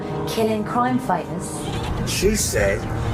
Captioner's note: none